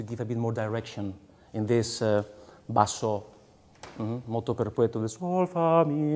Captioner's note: speaking in foreign language